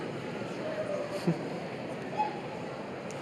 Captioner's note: laughter